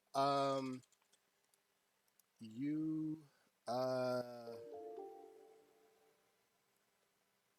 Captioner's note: another Alert Sound